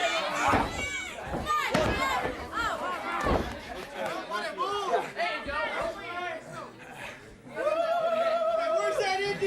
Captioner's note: crowd chatter